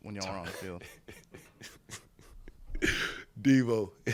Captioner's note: laughing